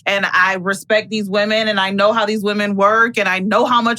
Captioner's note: none